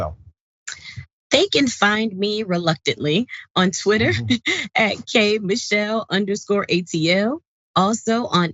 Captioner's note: laugh